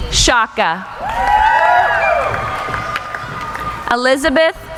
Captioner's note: cheering